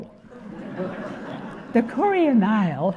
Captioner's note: audience laughing